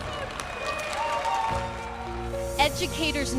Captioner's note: applause